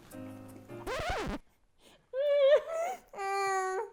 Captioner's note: record screeches